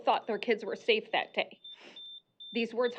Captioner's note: beeping